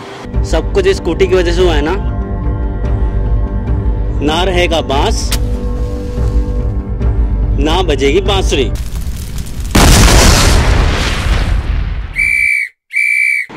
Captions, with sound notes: everything has happened just about this scooty there will be no stick no flute will play [explode] [Traffic police whistle]